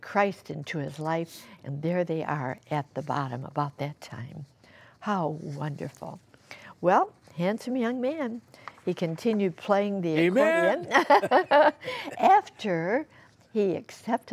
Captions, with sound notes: INTO HIS LIFE, AND THERE THEY ARE AT THE BOTTOM ABOUT THAT TIME. HOW WONDERFUL. WELL A HANDSOME YOUNG MAN. HE CONTINUED PLAYING THE ACCORDION >>AMEN! >>[LAUGHTER] AFTER HE ACCEPTED THE LORD,